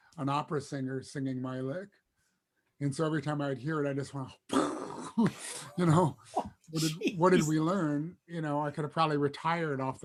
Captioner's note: gags